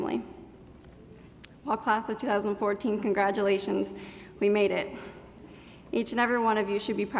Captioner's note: none